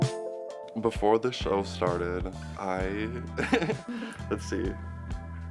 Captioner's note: laughs